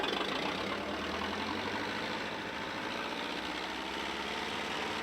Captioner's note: engine rumbling